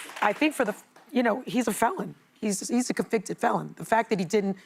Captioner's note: applause